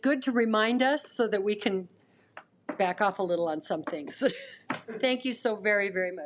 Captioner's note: laughs